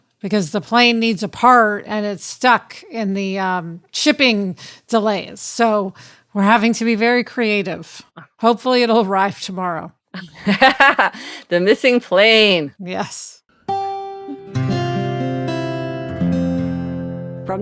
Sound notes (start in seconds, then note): 10.1 laughing; 13.7 gentle music